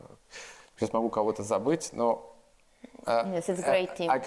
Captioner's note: speaks in foreign language